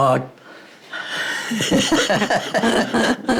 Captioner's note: laugh